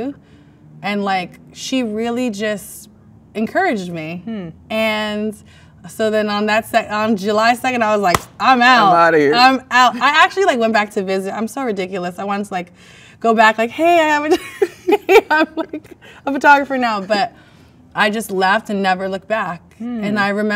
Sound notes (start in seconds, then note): 8.1 claps hands; 13.3 laughs